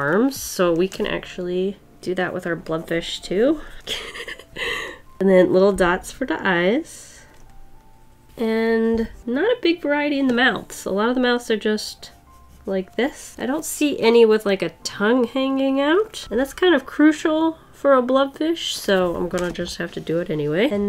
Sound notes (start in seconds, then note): 3.9 laughs